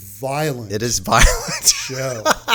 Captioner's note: chuckles